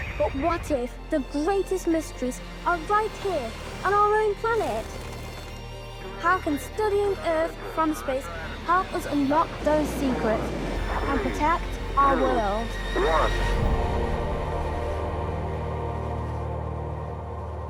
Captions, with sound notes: But what if the greatest mysteries are right here on our own planet? [wings fluttering] How can studying Earth from space help us unlock those secrets and protect our world? Three, two, one... [ethereal music]